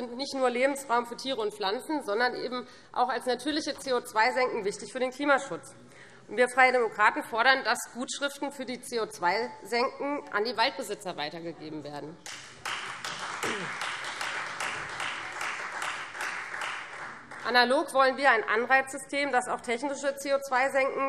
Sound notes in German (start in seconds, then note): 12.2 Beifall Freie Demokraten